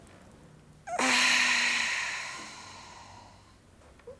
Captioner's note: inhales deeply; exhales